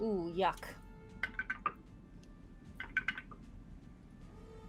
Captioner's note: dice rattling